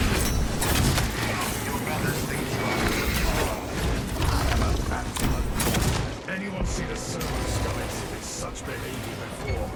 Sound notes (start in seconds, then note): 1.9 grunting